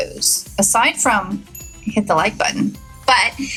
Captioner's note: bell rings